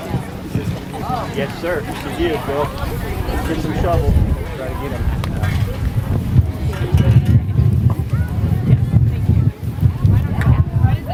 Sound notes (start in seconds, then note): none